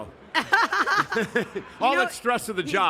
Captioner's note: Steph & Michael laughing